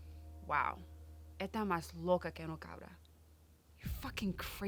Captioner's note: Jeanette speaks in Spanish